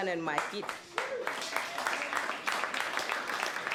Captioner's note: cheering